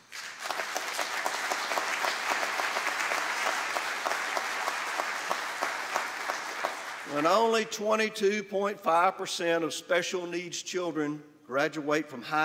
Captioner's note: applause